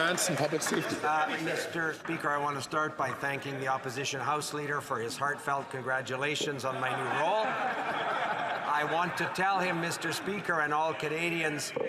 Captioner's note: some Applause